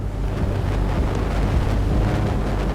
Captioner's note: waves crashing; dramatic music